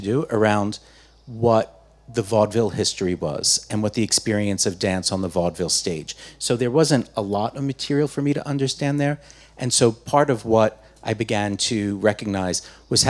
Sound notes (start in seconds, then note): none